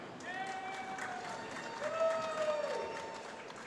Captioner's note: applause